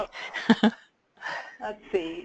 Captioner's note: laugh